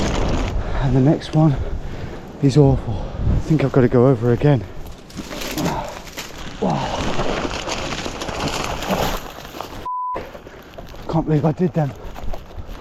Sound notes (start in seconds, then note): 3.4 hedgerow crunching; 5.5 grunts